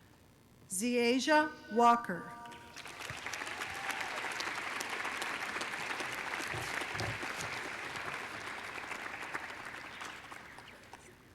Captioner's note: applause